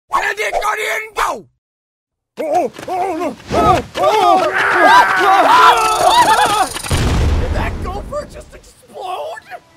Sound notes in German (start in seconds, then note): 4.0 Schreie